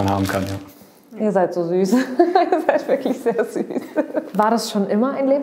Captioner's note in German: lacht